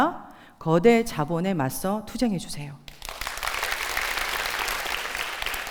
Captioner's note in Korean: 박수